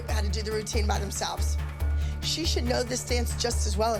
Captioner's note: none